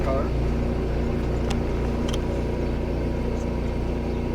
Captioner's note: engine whirring